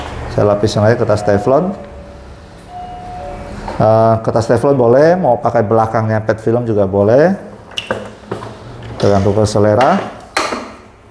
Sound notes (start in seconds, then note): 0.4 doorbell ringing; 7.6 press machine noise